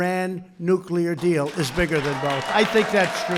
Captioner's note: applause